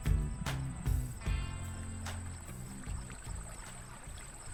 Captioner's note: water flowing